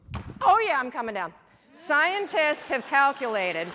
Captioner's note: laughter